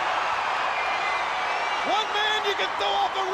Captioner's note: crowd cheering